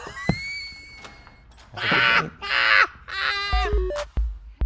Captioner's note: Trixie guffaws; bright, chirpy music